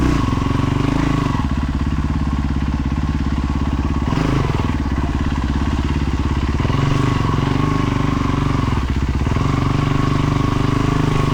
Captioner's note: engine revving